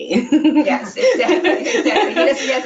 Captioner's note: all laughing